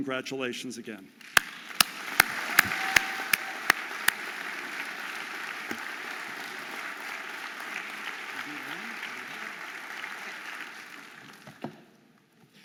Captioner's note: audience applauding and cheering